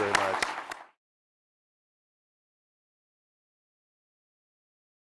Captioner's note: applause